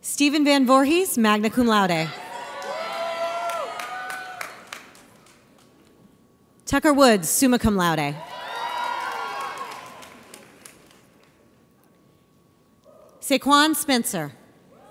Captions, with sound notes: Steven VanVoorhees, magna cum laude. (audience cheers) Tucker Woods, summa cum laude. (audience cheers) Sequan Spencer.